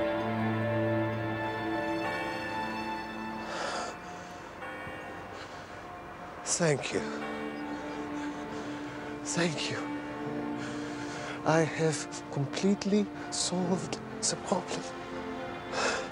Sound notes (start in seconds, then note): 0.3 <i> church bell tolling</i>; 3.8 <i> exhales deeply</i>